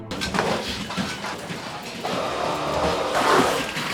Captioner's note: machine humming